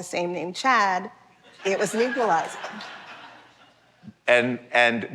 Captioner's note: laughter